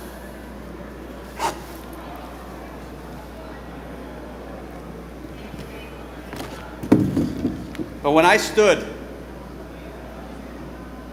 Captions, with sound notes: [boots squeaking] [chair thudding] But when I stood